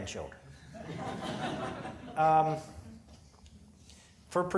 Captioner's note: audience laughing